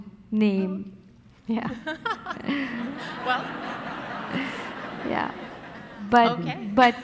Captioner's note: audience laughing; laughing